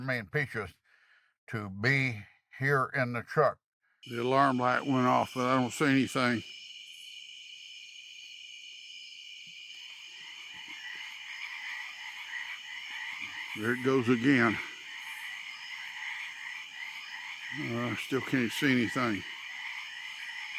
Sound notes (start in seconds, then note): 6.6 insects chittering; 9.8 frogs ribbiting